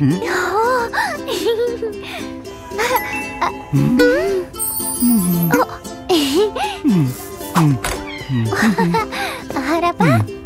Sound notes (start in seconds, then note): 0.1 gasps, chuckles; 2.6 giggles; 3.7 sighs dreamily; 5.9 chuckles; 7.0 grunting; 7.9 chuckles, babbles